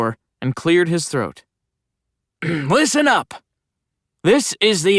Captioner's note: cough